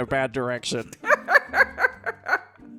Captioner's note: cackles